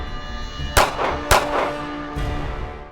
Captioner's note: gun shots